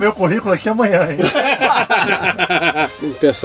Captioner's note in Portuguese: risos